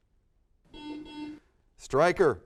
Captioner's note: buzzer sounds